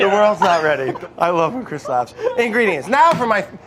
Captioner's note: laughing